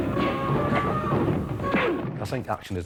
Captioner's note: body thuds